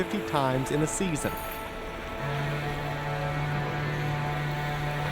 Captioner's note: boat horn blows